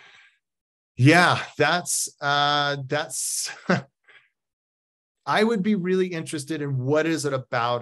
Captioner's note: chuckles